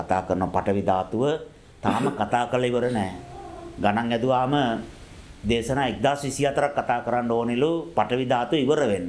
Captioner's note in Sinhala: උගුර කෑරීම